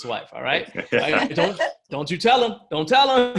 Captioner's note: laughing